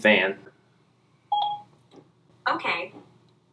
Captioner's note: phone beeps